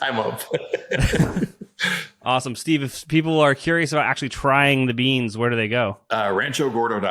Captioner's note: laughs